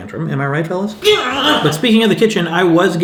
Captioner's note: yelling